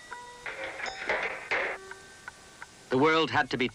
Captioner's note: canister clattering